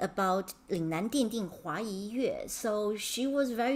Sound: speaking in Mandarin

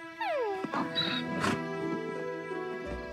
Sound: braying

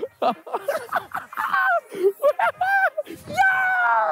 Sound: both laughing

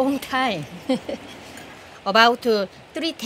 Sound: laughs

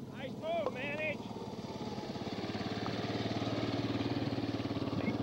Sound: engine rumbling; rumbling continues

